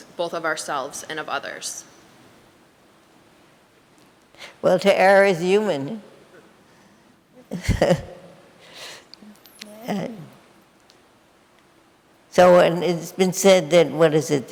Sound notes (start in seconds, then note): 7.4 laughs